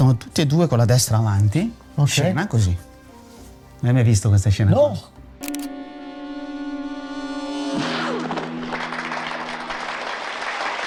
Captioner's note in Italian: Applauso